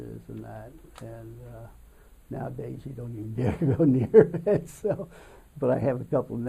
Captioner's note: laughs